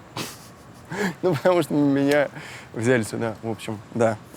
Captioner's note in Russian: смеясь